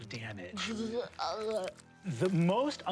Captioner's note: retching